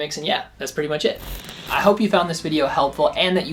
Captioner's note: static crackling